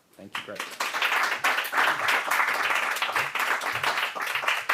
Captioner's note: applause